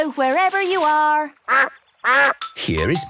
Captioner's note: quacks